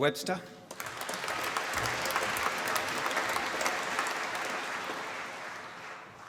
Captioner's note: applause